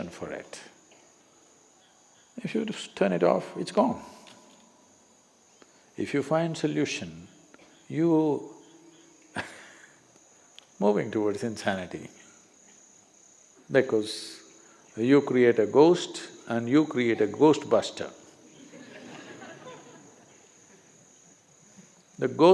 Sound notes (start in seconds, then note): 9.3 laughs; 18.5 laughter